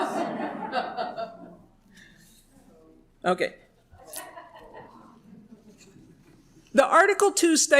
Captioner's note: laughter